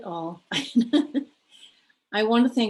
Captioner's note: laughs